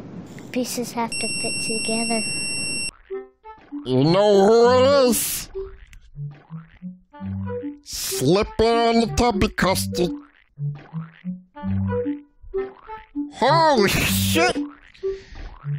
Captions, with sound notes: "...pieces have-" (painful beeping noise) (Tinky Winky voice) YOU KNOW WHO IT IS! SLIPPIN' ON THE TUBBY CUSTARD! HOLY SHIT!